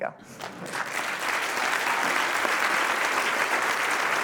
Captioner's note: applause